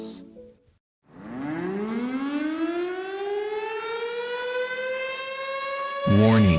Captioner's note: siren blares